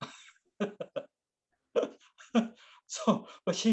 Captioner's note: laughs